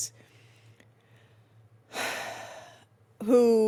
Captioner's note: sighs